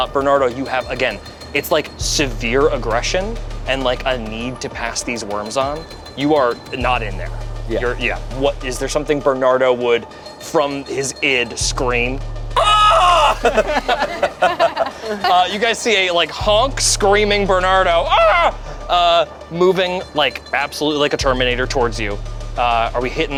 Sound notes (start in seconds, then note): 12.6 screams; 12.6 group laughs